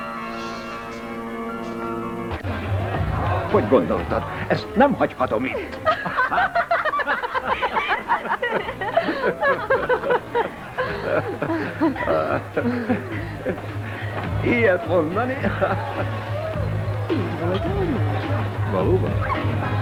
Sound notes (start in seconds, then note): 2.3 chatter and laughter; 8.0 all laugh